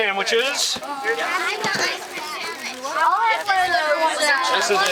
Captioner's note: indistinct chatter